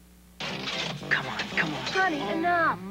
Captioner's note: slot machine spinning; man whispering; man speaking